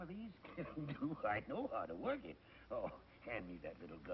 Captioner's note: chuckles